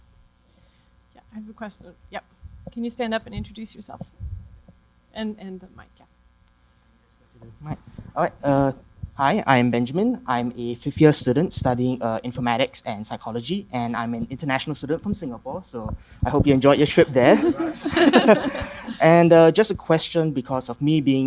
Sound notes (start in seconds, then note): 17.0 laughter